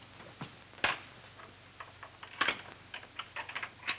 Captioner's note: lock clicking